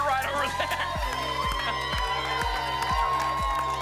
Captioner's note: applause and cheering